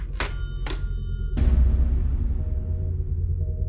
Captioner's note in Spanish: Ruido al tirar el auricular